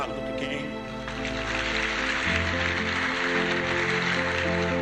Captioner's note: applause